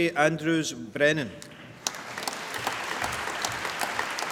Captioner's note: applause